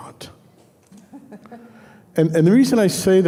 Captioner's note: laughing